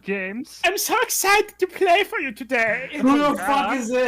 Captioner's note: Hans voice